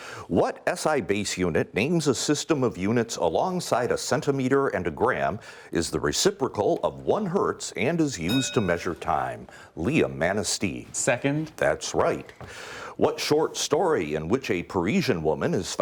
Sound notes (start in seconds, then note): 8.2 ding